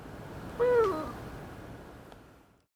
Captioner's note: coos